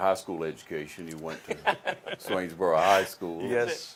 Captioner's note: laughs